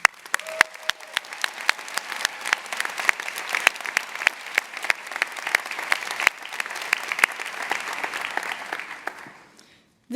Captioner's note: applause